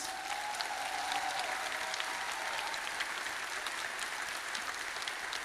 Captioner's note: audience applauding and cheering